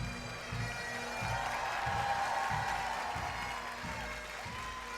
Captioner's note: audience clapping